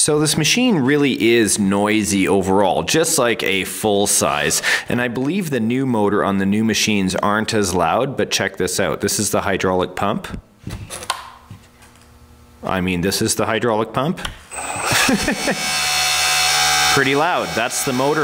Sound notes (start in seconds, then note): 14.5 mechanical whirring; 14.8 laughs